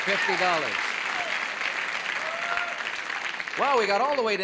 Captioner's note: applause